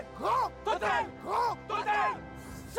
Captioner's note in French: en choeur